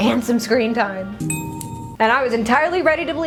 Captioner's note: ding!